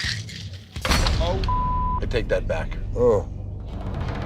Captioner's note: beep